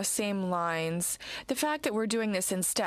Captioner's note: speaking french